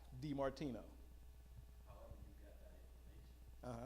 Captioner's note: male audience member speaking